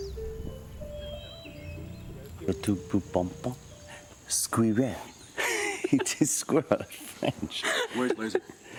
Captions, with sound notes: - (Professor Farley speaking foreign language) Squirrel. It is squirrel in French. - Where's Laser?